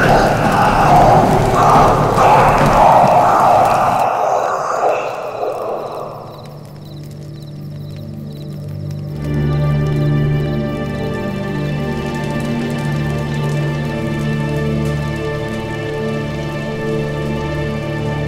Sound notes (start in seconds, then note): 0.0 screams